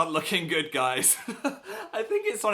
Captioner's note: laughs evilly